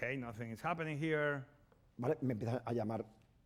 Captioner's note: speaking spanish